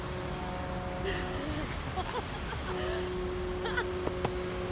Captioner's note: laughing